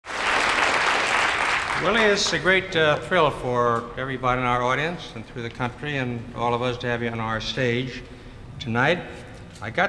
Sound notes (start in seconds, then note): 0.0 crowd applauding